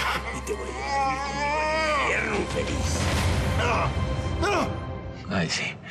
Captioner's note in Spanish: quejidos; quejidos